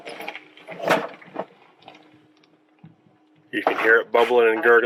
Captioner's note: tank gurgling